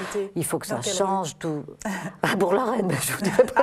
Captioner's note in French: rires